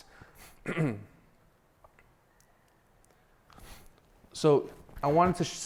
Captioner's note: clears throat